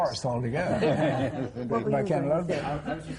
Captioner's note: laughter